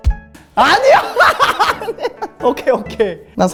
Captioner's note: laughing